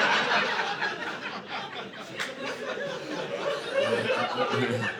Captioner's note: audience laughing